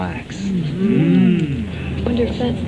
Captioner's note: hmmmmm